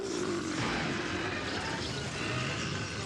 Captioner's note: growling